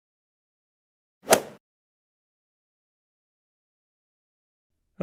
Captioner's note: golf swing sound effect